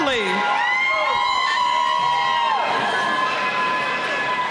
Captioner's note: cheering